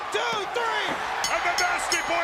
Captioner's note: bell ringing